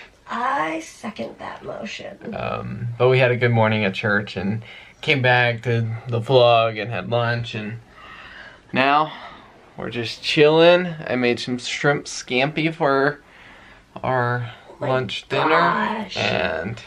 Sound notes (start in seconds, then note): none